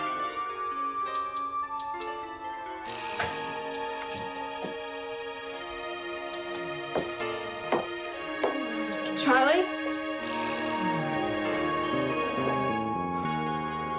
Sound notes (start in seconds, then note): 0.2 dramatic music; 6.2 footsteps tapping; 11.1 dramatic music